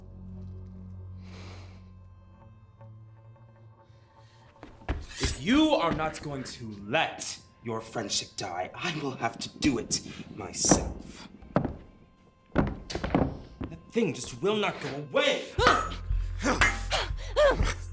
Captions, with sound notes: (sighs) - If you are not going to let your friendship die, I will have to do it myself! [thumping under floor] That thing just will not go away!